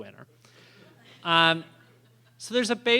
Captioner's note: laughter